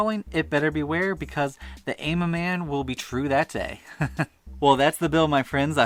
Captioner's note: haha